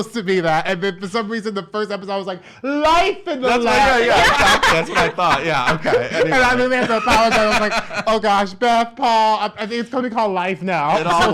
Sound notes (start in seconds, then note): 5.5 laughs